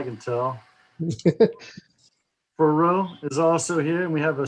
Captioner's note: laughing